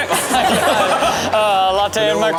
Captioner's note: audience laughing